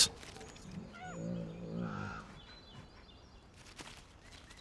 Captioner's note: bear growls